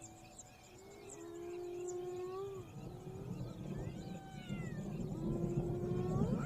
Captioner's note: birds chirping; thunder rumbling; rain falling; thunder rumbling